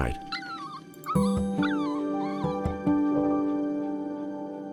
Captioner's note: gentle music; puppy crying